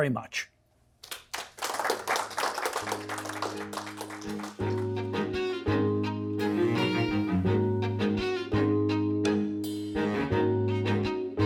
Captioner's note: applause